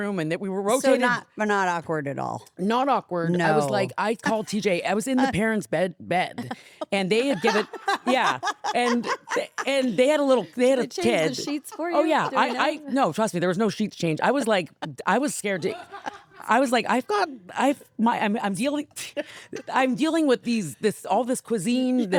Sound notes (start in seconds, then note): 9.0 laughing